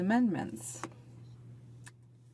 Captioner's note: speaking in French